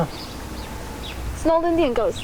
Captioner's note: birds chirping